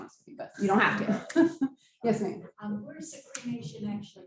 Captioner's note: laughing